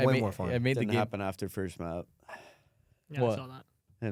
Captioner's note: sighs